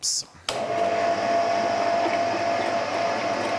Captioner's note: machine roar